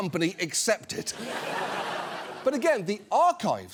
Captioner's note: audience laughs